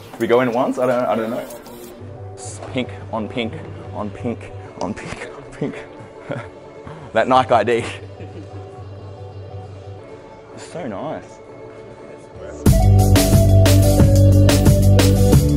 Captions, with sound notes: We go in once, I don't know, I don't know. Pink on pink, on pink, pink (laughs). That Nike ID. (upbeat music) So nice! (upbeat music)